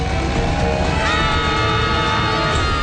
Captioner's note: screaming